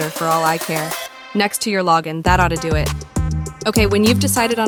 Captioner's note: sarcastic